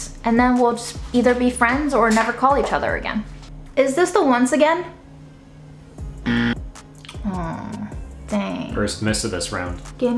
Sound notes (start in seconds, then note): 6.2 buzzer sounding